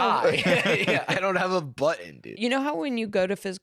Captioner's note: laughs